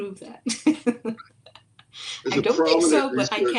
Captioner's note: laughs